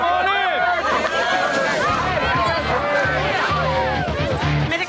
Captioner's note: cheers